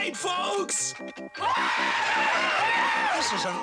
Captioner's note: cheering